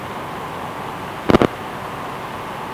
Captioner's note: brief crackle